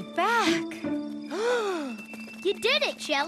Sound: happy gasp

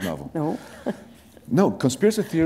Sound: chuckle

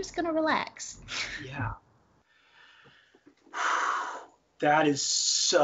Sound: sighs

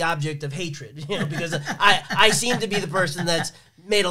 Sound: laughs

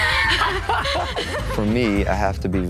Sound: people laughing

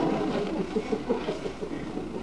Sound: laughs

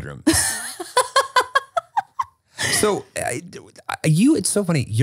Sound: laughing

